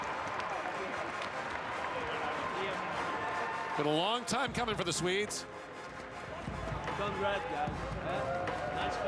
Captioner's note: cheering and Applause